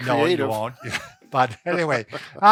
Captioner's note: both laughs